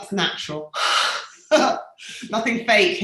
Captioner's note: both laughing